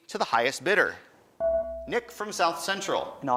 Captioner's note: buzzer dings